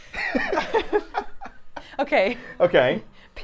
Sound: both laughing

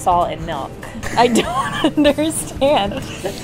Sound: laughing

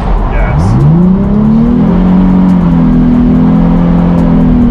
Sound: car engine revving

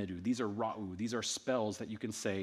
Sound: speaking in ancient Egyptian

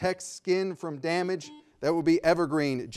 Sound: buzzer ringing

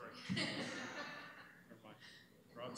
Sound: laughter

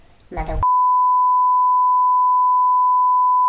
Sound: beep

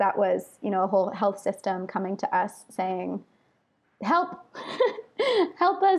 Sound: laughs

